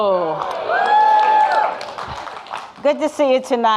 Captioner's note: audience cheering and clapping